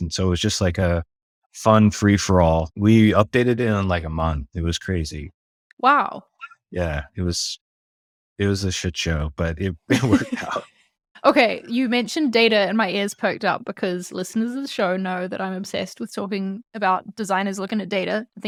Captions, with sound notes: And so it was just like a fun free for all. We updated it in like a month. It was crazy. - Wow! - Yeah, it was a shit show, but it (laughing) worked out. - Okay, you mentioned data and my ears poked up because listeners of the show know that I'm obsessed with talking about designers looking at data.